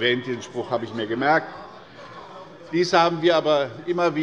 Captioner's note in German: Zurufe von der CDU